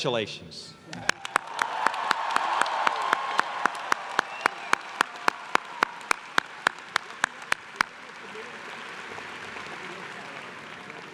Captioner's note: applause